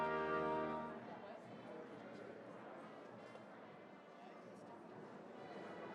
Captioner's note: crowd chatters indistinctly